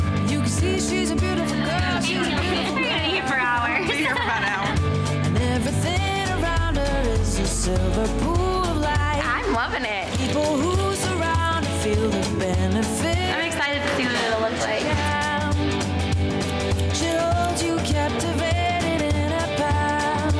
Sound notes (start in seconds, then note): 1.3 laughs